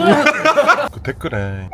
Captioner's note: laughs